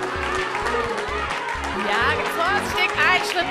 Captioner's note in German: Anfeuerungsrufe